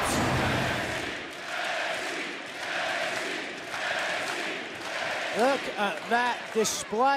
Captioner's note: crowd cheering